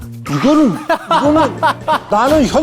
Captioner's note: haha